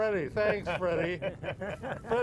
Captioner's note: laughing